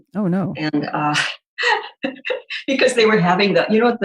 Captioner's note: chuckling